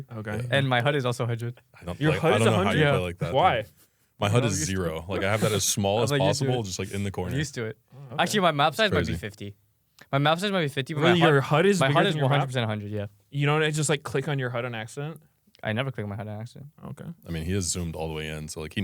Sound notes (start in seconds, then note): 5.2 laughs